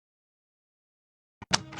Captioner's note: silence